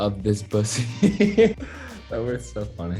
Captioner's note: Noah Laughs